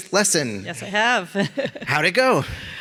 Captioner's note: laughs